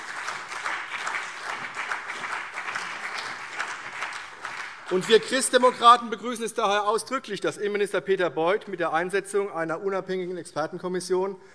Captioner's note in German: Beifall AfD